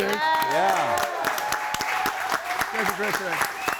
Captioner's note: group applauds and cheers